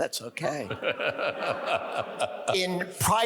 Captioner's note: audience laughs